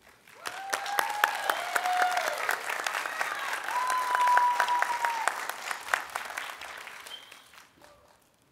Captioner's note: cheering, Applause